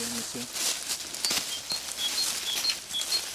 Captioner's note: shuffling